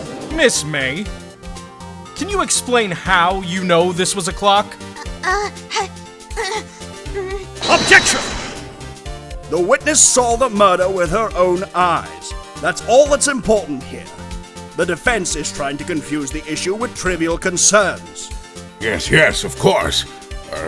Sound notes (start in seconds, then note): 5.7 nervous grunts